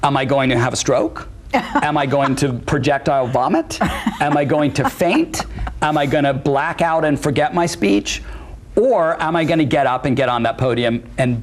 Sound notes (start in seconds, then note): 3.0 laughs